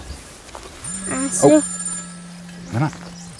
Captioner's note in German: Telefonklingeln